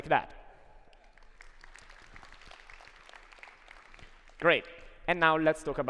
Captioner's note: applause